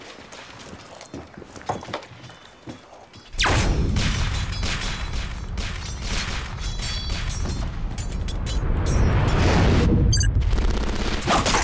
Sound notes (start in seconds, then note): 4.1 video game Gunfire and Sword Clanging